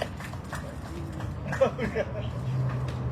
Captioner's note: laughing